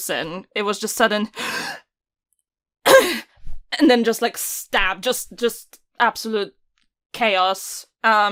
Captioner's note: sharp inhale